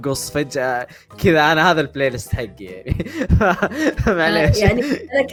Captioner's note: laughs